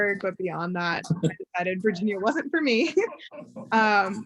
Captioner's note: chuckles